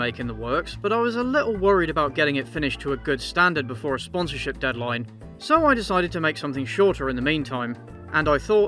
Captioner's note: distortion